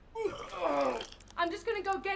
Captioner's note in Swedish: kräks